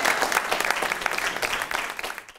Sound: applause

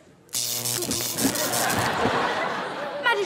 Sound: zaps

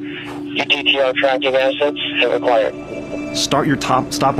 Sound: voice on radio

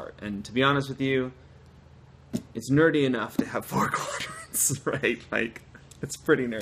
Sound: laughter

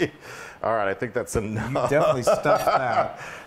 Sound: laugh

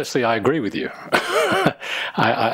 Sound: chuckles

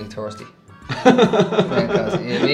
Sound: laughter

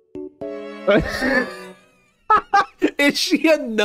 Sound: laughs

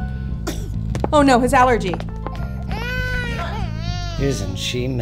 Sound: sound of Child Crying

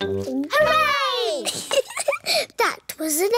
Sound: giggles

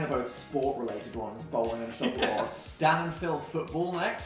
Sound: laughs

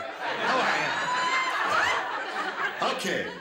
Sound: laughter

